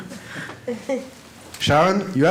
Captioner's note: laughter